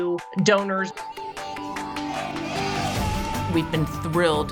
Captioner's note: lively music; children shouting